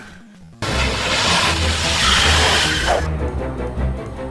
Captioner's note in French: Crissement de pneus